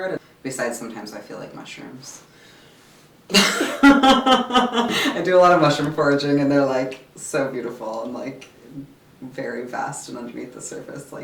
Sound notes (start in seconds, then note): 3.3 laughs